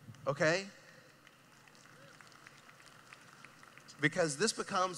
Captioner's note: clapping